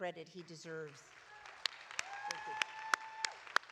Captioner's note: audience applauding